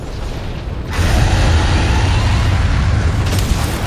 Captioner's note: Azure Rathalos scree